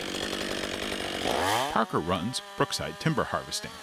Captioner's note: chainsaw revving